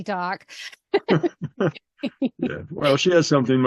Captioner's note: laughing